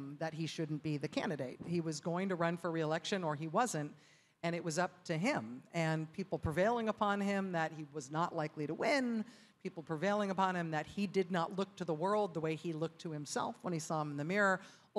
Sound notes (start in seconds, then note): none